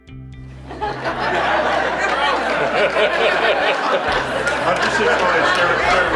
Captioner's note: laughter